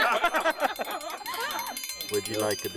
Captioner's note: laughter; ringing dinner bell